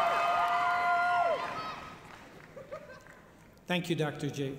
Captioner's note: applause